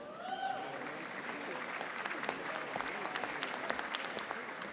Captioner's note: audience applauding